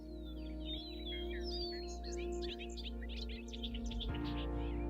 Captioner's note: birds singing